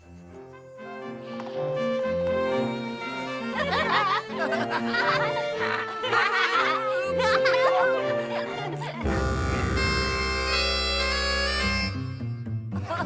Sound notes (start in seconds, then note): 0.9 orchestral music; 8.8 out-of-tune blast